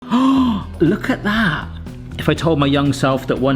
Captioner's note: gasps